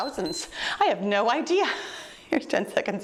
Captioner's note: timer beeps